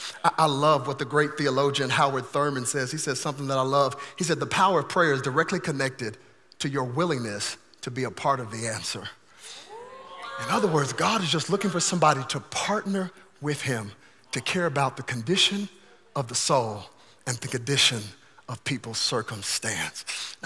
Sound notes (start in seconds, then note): 9.6 congregation cheering